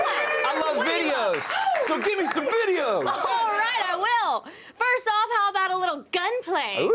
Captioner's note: applause